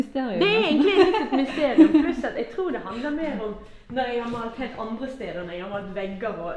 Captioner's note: haha